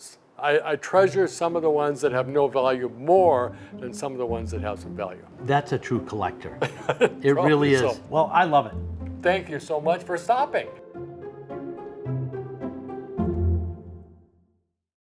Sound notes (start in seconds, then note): 6.5 laughs; 11.2 light happy music